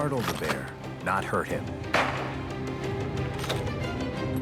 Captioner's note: gun blasting; gun pump clacking